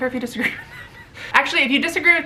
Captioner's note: laughter